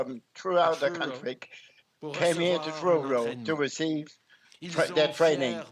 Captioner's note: speaking french